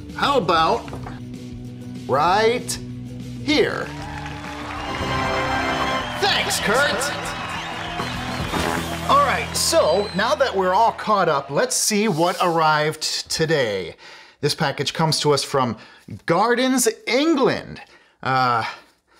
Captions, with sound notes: How about right... here! [audience celebrating] Thanks, Kurt! [juicy fart] All right, so now that we're all caught up, let's see what arrived today! This package comes to us from Gardens, England!